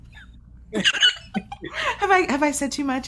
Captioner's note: giggling